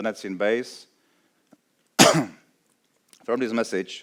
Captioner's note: coughs